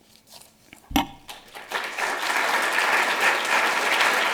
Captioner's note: applause